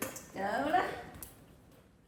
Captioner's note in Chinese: 廣東話